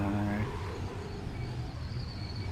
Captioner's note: wind